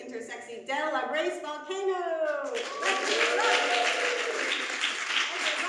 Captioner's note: audience cheers